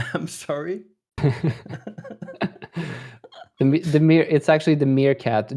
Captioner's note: laughter